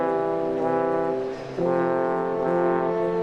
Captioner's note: none